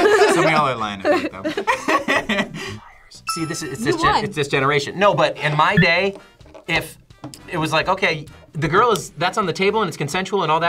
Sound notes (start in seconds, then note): 0.0 both laugh; 2.3 laughs; 2.7 whispers